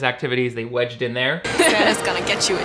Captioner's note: girl laughs